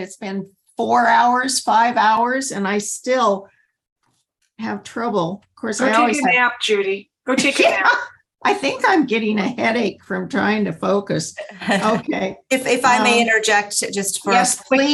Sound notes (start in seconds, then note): 6.4 laughter